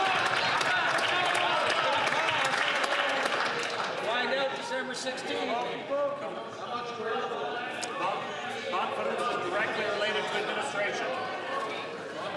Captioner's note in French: applaudissements